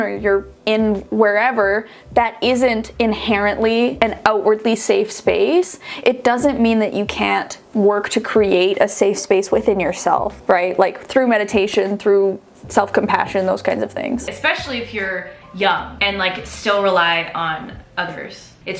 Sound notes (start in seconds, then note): none